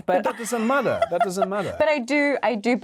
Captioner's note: Yerin laughing